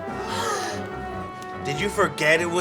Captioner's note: gasps